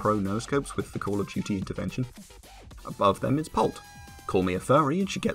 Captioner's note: 2012 Montarge Parody Noises